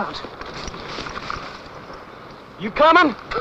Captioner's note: footsteps